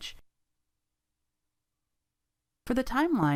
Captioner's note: silence